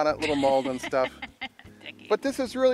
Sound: woman laughing

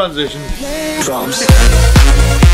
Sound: voiceover; upbeat EDM music

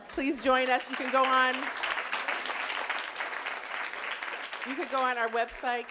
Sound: audience applauding

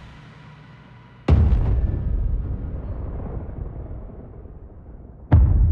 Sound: dramatic sound

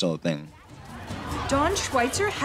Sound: students murmuring

